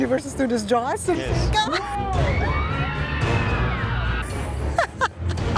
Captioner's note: crowd screaming; laughs